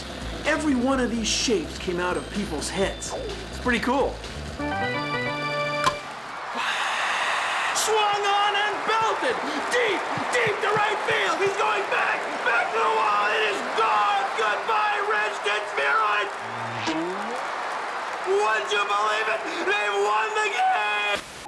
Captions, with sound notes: EVERY ONE OF THESE SHAPES CAME OUT OF PEOPLE'S HEADS. IT'S PRETTY COOL. [ BAT CRACKS ] [ IMITATING CHEERS ] SWUNG ON AND BELTED DEEP, DEEP TO RIGHT FIELD! HE'S GOING BACK, BACK TO THE WALL! IT IS GONE! GOODBYE RED STITCHED SPHEROID! WOULD YOU BELIEVE IT?! THEY WON THE GAME!